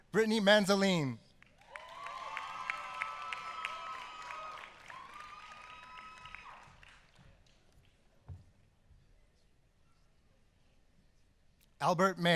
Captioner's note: applause